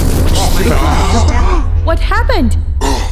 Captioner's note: leaders gasp and murmur